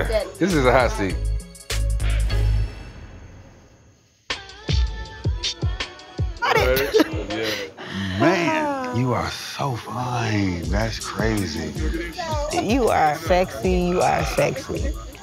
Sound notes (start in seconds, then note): 6.6 laughter